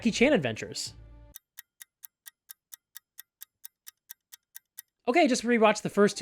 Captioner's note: ticking clock